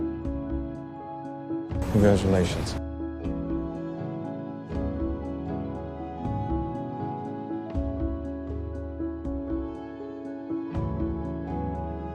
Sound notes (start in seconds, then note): 2.0 voiceover